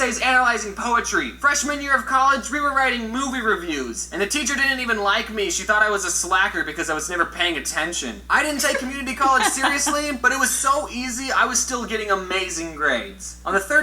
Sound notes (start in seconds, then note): 8.5 both Laugh